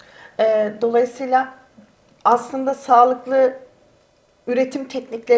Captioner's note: speaks in Turkish